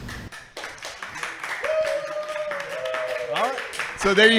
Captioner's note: applause